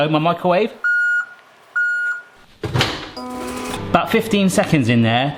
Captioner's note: reversing sensor beeps